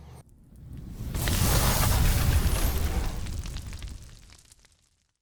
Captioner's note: sparks sizzling